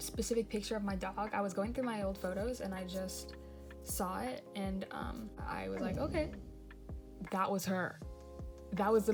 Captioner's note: dog growls